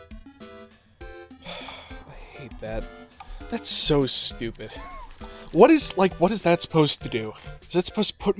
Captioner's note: sigh; wheeze